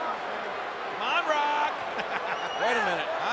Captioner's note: laughs